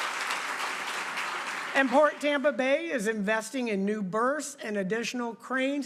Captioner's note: applause